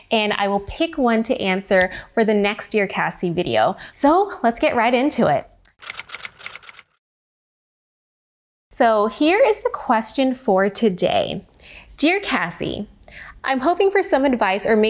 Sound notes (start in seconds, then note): 5.8 keyboard typing